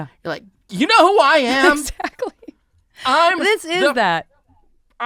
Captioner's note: laughing